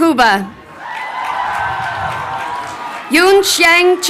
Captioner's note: crowd cheering